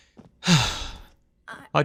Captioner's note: sigh